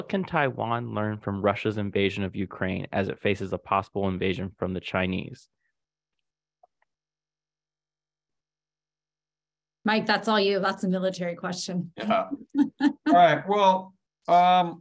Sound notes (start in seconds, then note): 12.1 laughs